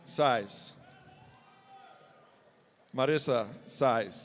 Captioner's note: audience cheering